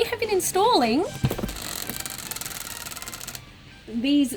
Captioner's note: soft clicking